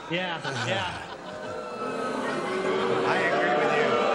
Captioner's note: booing